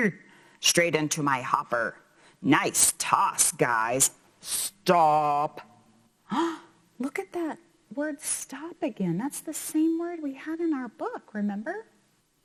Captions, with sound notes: Straight into my hopper. Nice toss guys. Stop! (gasps) Look at that word stop again. That's the same word we had in our book, remember?